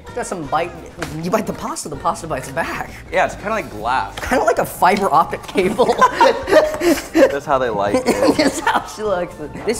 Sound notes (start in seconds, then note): 5.4 laughing